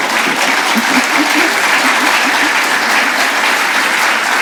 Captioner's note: applause; laughter